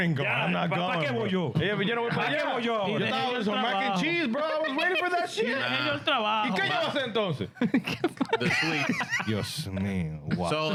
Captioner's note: speaking In Foreign Language